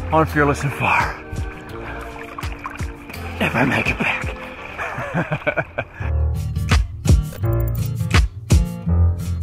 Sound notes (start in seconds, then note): 2.1 water splashing; 4.7 laughing; 6.8 groovy music